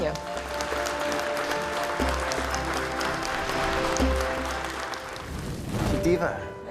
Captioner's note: applause